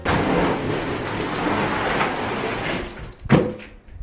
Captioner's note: box scrapes